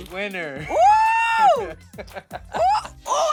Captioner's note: laughing